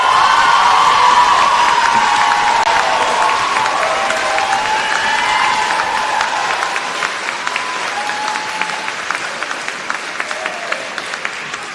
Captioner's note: cheers and applause